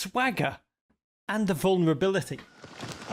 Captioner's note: footsteps stomping